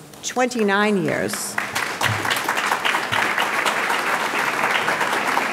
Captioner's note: audience clapping